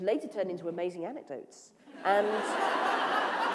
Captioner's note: laughter